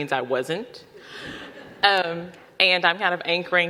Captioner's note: audience laughing